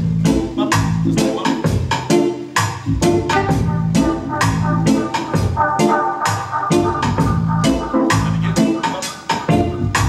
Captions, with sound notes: - Bup. Just that one. (TOOT!) And again? Bup.